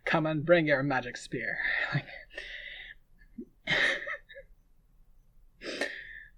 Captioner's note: laughing